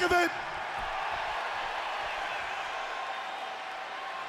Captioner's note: audience cheering